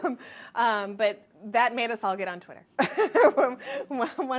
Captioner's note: chuckles